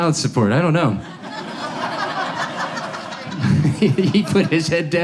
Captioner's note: audience laughs